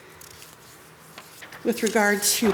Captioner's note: paper rustles